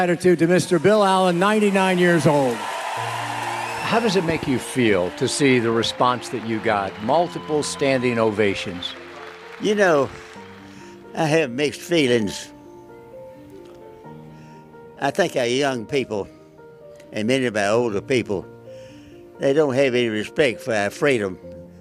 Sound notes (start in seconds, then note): 2.3 crowd cheers and applauds; 12.0 gentle instrumental music